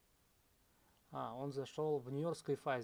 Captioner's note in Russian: none